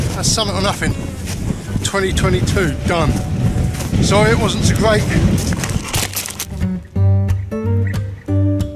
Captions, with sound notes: that's Summit or Nothing 2022 done sorry it wasn't so great (Crash)